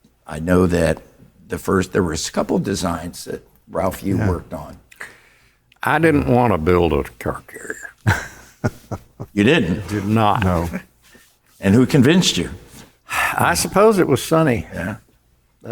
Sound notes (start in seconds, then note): 7.9 chuckling